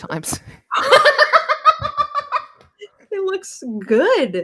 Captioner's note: laughs